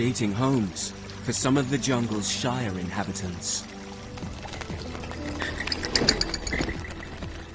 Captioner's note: light music continues; bats screeching